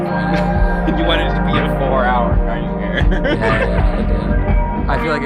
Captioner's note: laughs